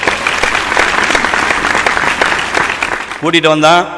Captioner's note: appreciative applause